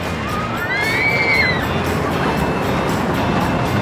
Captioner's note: riders screaming